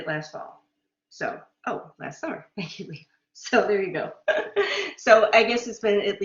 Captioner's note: laughter